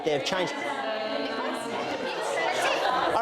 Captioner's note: all chatter